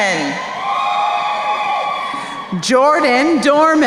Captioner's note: crowd cheering